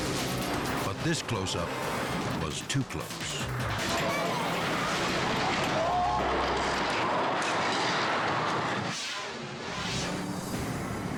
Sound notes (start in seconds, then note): 4.5 car crashes; 8.8 air whooshes